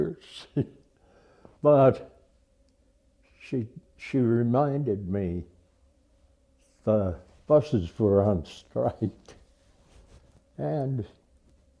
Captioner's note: laughs